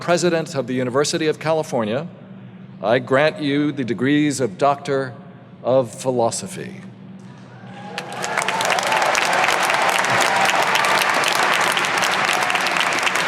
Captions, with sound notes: by the President of the University of California, I grant you the degrees of Doctor of Philosophy. (audience applauding)